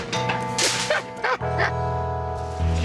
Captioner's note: laughs